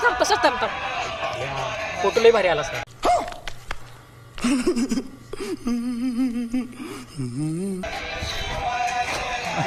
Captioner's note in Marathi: हास्य